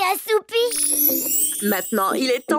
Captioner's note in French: bruit de baguette magique